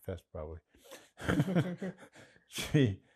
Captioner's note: laughing